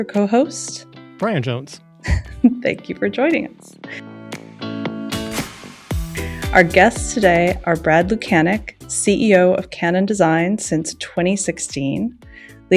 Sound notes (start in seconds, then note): 2.1 laughs; 5.1 upbeat music